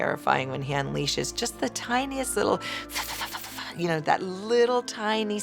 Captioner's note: mimics Lecter salivating